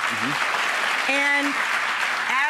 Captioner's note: applause